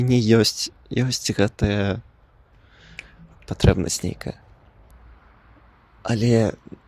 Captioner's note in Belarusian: пстрык